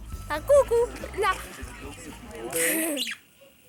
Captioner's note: laughs